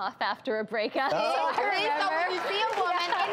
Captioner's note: audience claps